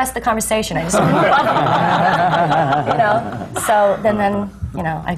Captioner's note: laughter